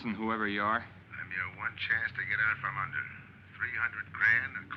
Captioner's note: on phone